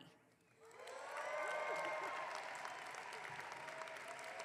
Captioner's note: audience clapping